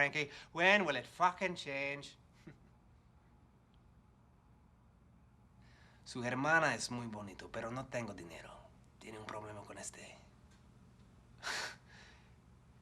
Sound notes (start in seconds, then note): 5.8 speaks in foreign language; 11.2 scoffs